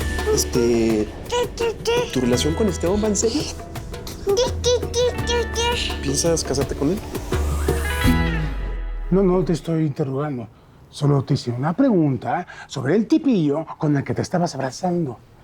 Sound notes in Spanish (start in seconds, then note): 4.0 carlitos balbucea